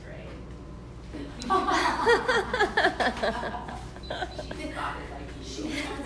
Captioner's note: laughter